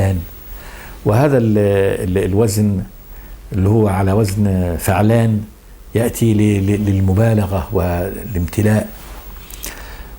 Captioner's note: in Arabic